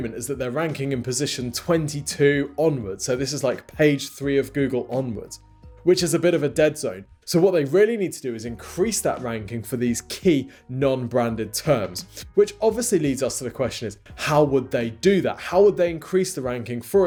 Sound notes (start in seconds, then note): none